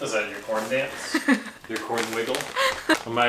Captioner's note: chuckles